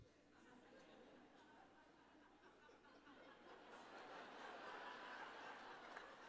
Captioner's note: laughter